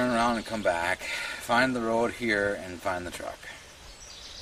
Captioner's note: sigh